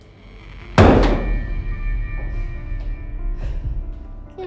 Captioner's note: clattering